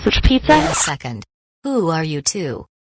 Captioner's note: record scratches